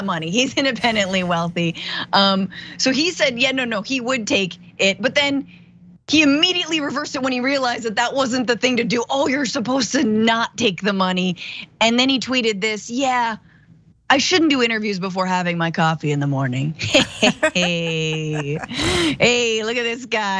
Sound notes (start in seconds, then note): 16.9 laugh